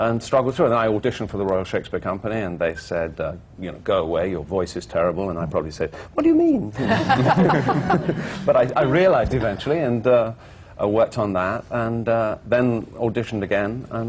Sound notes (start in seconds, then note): 6.1 in a high voice; 6.8 laughter